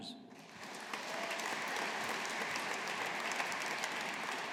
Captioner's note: audience applauding